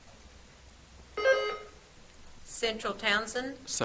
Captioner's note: buzzer trills